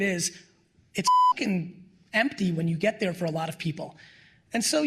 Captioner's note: beep